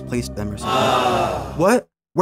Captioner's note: Wii Sports "Awww"